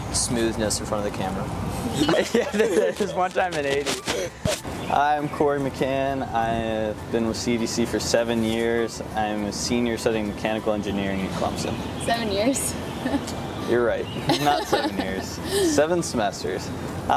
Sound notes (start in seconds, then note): 1.9 students laughing; 14.2 laughing